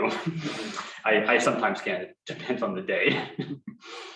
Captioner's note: laughs